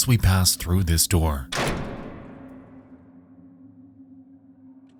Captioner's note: door slams